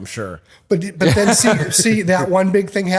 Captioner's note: laughter